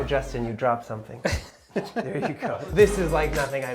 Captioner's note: laughs